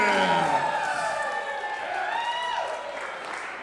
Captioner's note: crowd cheering